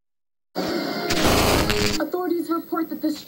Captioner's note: violent intro sound